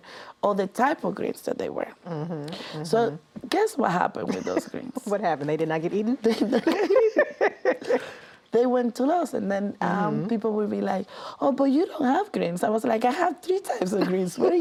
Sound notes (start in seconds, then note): 6.3 laughs